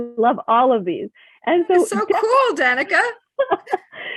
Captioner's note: laughs